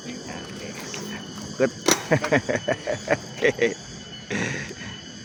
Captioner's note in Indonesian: tertawa